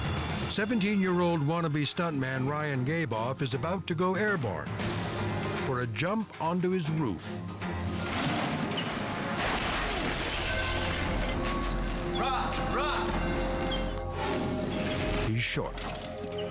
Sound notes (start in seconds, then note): 7.4 wheels whir; 9.1 bike clatters